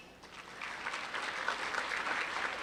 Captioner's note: applause